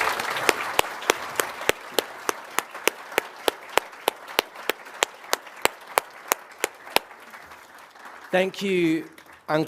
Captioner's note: applause